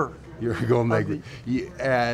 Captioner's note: laughs